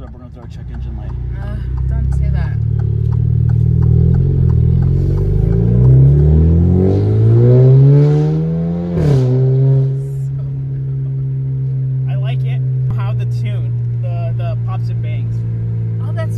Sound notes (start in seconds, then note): 3.1 engine revving; 3.1 signal light clacking